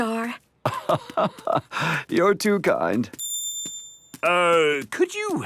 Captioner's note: laugh